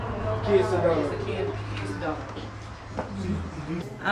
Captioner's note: people chattering